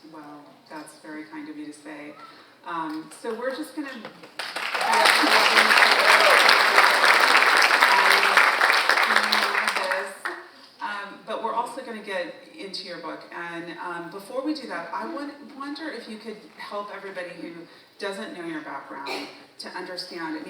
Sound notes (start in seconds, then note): 4.4 audience cheering